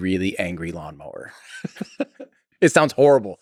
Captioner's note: Tim laughs